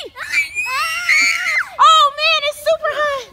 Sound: girls screaming

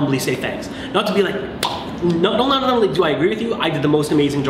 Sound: pop

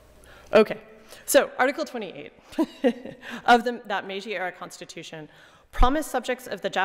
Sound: laughing

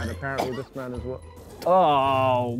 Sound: retching

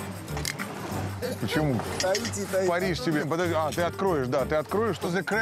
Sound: Russian spoken audio

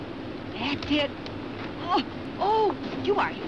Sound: groans; groans

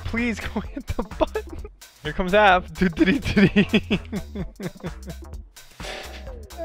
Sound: painful laughs

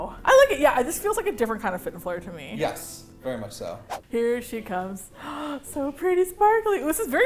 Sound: gasps

